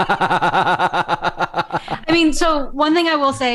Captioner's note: laughter